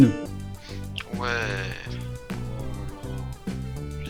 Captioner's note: chatting